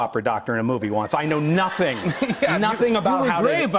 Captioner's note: laughter